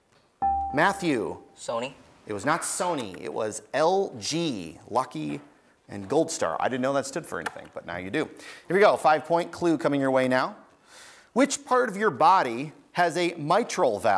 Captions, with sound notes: (buzzer beeps) Matthew. >> Sony? >> It was not Sony, it was LG, Lucky-Goldstar. I didn't know that stood for anything, now you do. Here we go, five point clue coming your way now. Which part of your body has a mitral valve